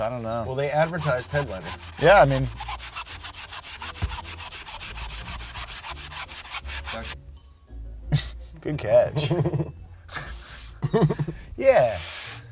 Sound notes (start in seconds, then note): 3.3 squeaky scrubbing continues; 10.0 laughing